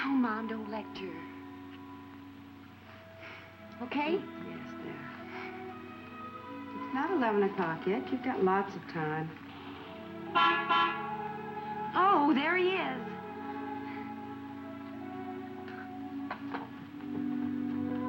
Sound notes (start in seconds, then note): 2.0 slow relaxing music; 10.2 car horn honking; 13.9 slow relaxing music continues